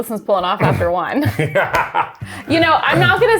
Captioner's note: laughs